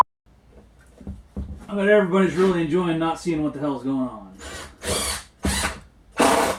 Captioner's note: drill noises